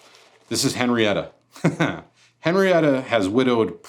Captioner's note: laughs